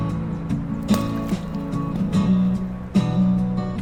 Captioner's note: water splashes; uptempo music